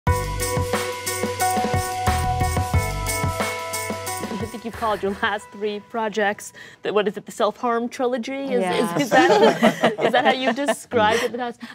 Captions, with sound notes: (dramatic music) - I think you called your last three projects the - what is it? - the self-harm trilogy? (laughter) Is that how you describe it?